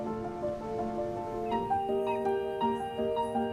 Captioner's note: mellow music; ocean sloshing